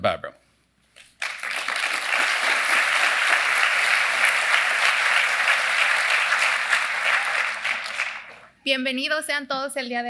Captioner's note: applause